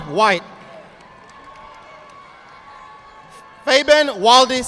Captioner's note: audience applauding